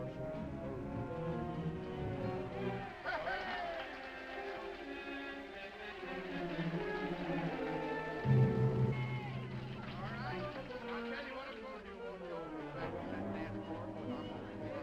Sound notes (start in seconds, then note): 0.1 dramatic music; 3.5 all applauding; 7.1 dramatic music